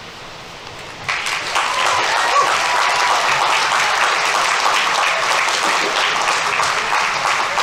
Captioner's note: audience applauding; audience members cheering